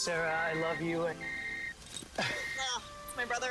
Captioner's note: phone rings